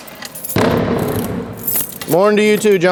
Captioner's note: object hits glass